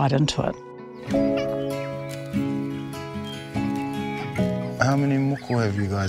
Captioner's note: children laughing